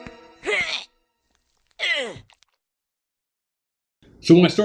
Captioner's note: loud retching